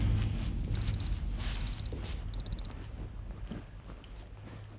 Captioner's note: timer beeps